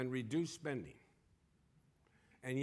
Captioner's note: none